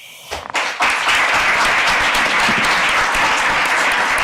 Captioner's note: audience applauding